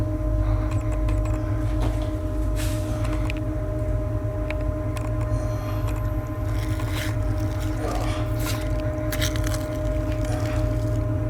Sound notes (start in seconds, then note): 6.4 tearing and ripping sounds; 7.5 grunting